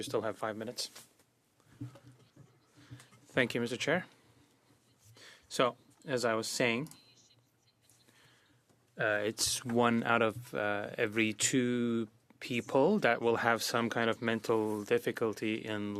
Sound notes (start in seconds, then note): 3.2 speaking French